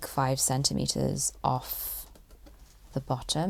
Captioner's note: none